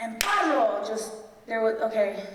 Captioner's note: loud clapping